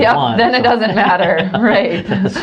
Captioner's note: laughs